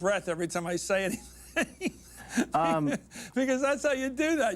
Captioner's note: laughs